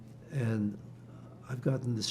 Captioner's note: none